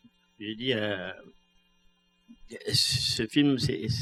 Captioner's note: speaking french